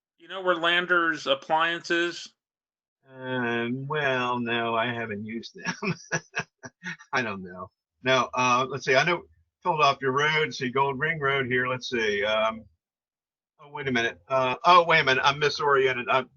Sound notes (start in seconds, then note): 4.2 chuckling